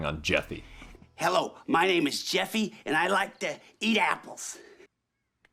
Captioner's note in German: stottere